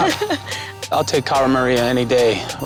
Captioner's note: Cara laughs